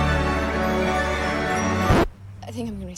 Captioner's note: record scratches, music stops